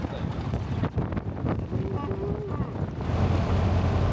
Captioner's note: engine revving